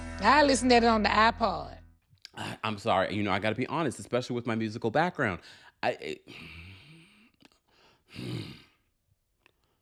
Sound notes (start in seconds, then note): 6.4 growling